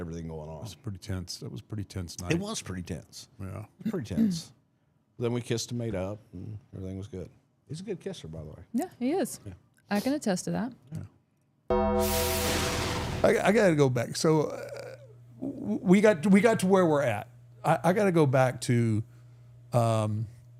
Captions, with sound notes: It was a pretty tense, that was pretty tense night. It was pretty tense. Yeah. Pretty tense. Then we kissed and made up and everything was good. He's a good kisser, by the way. Yeah, he is. Yeah. I can attest to that. Yeah. (logo dings) (logo whooshing) I gotta go back. So we got to where we're at. I gotta go back to WrestleMania 29,